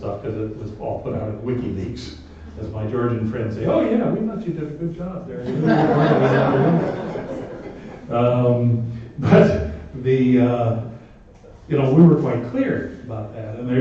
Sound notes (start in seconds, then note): 5.4 laughter